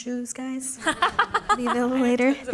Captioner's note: laughter